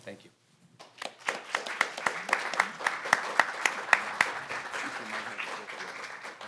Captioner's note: audience and panelists applaud